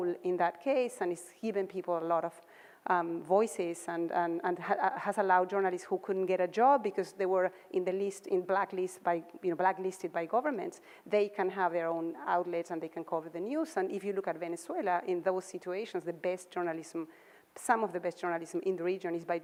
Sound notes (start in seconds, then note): none